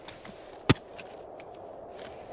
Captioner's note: loud thud